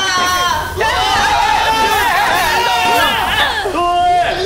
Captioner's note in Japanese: 絶叫